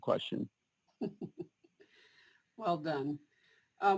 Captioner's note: chuckles